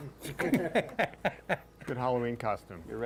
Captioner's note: all chuckling